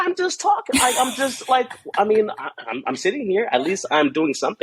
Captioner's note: laughs